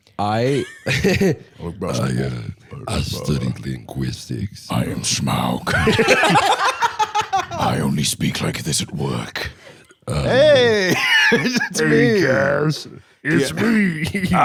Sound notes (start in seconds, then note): 0.4 laughs; 1.5 deep voice; 5.6 laughing; 7.8 deep voice; 10.4 normal voice; 12.2 gravelly, friendly